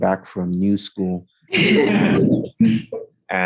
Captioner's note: laughing